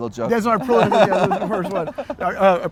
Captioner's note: güler